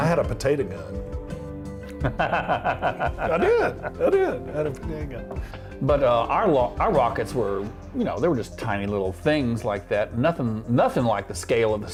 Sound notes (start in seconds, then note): 3.5 laughing